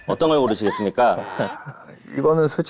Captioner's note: suffering